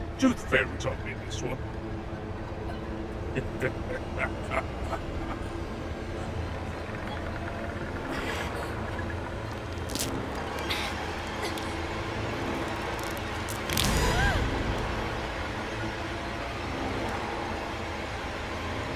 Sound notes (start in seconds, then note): 3.3 leprechaun laughing; 9.5 tooth crunching; 13.9 Linda gasping; 16.1 sinister music